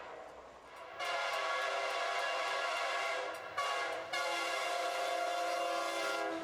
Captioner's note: train horn